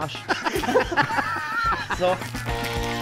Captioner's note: Lachen